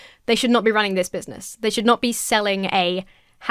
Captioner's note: none